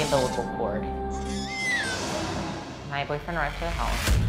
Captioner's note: baby crying